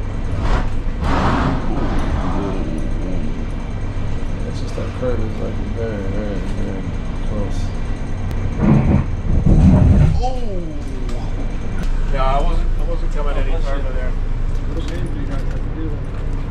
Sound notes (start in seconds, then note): 0.2 scrape, scraaaape; 8.4 scrape scrape